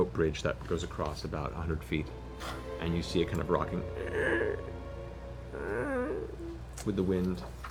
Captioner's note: creaking